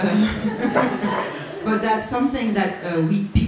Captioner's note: audience laughs